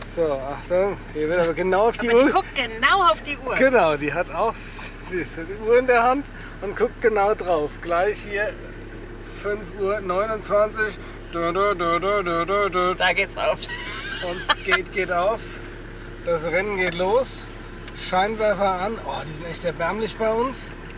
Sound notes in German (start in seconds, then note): 13.6 gelächter